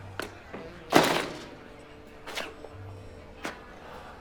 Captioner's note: door rattling; door slams shut